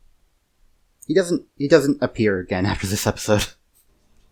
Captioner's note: chuckles